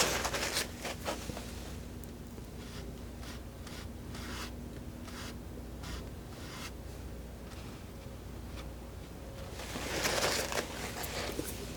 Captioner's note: scratching